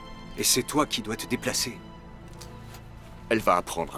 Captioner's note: scoffs